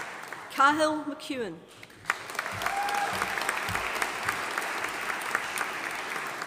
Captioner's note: audience applauding